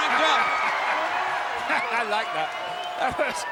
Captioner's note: crowd cheers; laughs